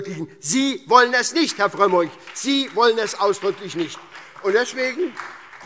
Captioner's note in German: Beifall SPD und DIE LINKE